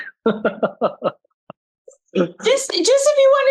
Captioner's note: giggling